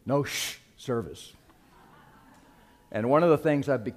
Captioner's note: laughter